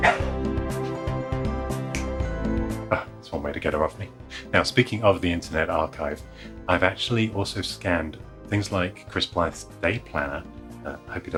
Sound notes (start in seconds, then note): 0.0 upbeat music; 0.0 dog barking; 1.9 snaps